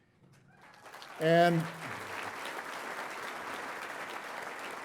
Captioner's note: audience applauding